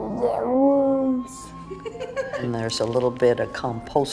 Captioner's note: laughing